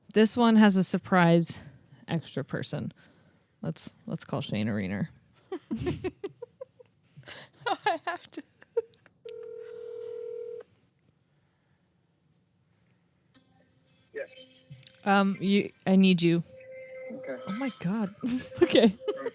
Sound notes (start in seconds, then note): 5.4 giggles; 9.3 phone line rings; 18.2 chuckles